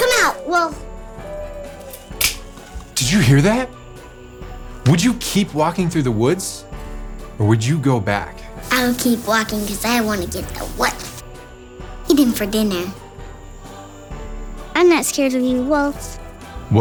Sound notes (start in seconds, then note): 1.8 twig snapping